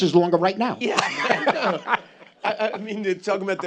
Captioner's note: laughs